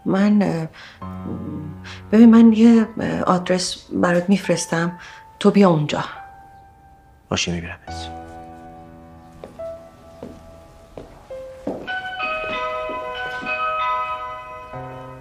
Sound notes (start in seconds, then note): 11.8 doorbell ringing